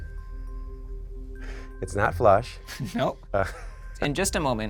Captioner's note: laughs